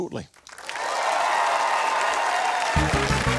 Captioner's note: cheering, applause